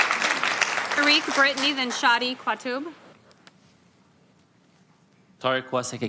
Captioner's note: applause